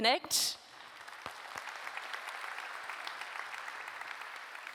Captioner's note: audience applauds